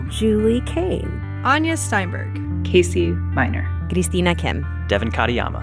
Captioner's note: none